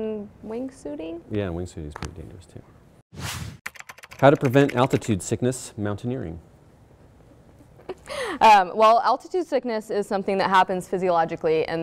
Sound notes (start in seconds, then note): 3.2 air whooshing; 3.6 keyboard clicking; 7.8 laughs